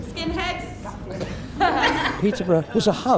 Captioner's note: teens laugh